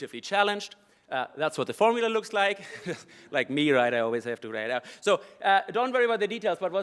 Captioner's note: laugh